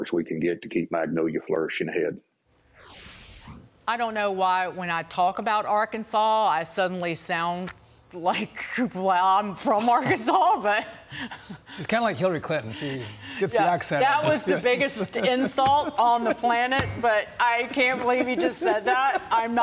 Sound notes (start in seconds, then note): 16.8 laughter